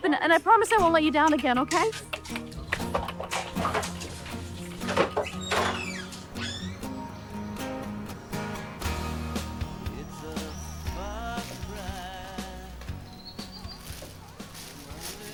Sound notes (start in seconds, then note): 2.5 pop music; 5.0 door hinge creaking; 8.2 pop music